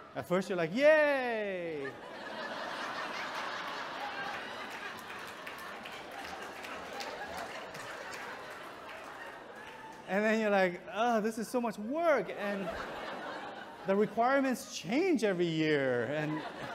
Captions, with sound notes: At first you're like, yay. (audience chuckles) And then you're like, oh, this is so much work. And the requirements change every year.